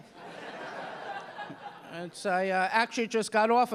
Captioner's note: audience laughing